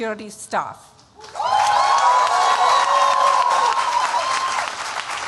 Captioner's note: cheering